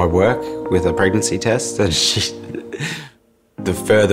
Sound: laughs

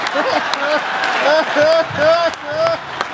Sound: laughs

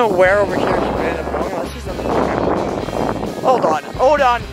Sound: wind blowing

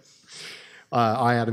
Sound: laughing

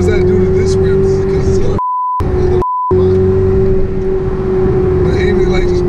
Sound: beeps

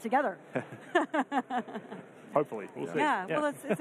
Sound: laughing

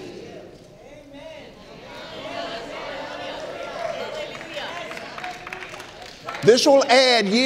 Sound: audience cheering

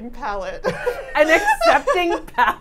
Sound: all laughing

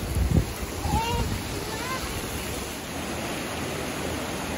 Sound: water flowing

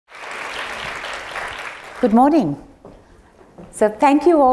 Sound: applause

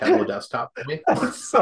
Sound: laughter

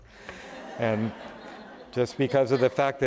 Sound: audience laughter

